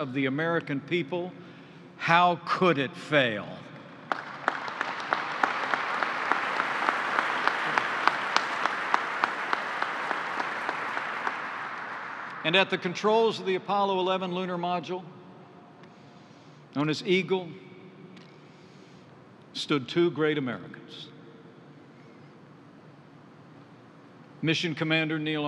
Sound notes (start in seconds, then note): 4.9 applause